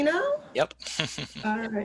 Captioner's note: chuckles